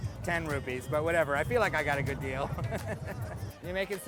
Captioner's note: laughs